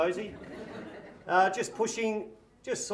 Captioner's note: audience laughs